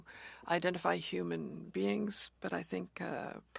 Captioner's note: speaking French